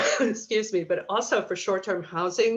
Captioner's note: coughs